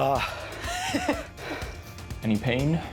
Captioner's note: laughing